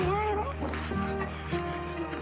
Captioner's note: Bo laughs